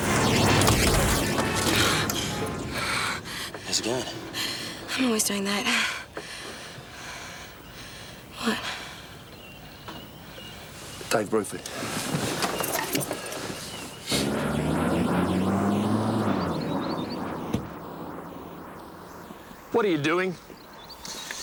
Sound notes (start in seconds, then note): 0.0 dramatic music; 0.2 horn honking; 2.7 breathing heavily; 6.6 laughs; 12.6 car engine rumbling